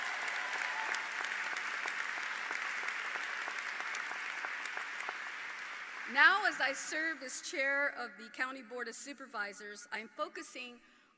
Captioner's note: applause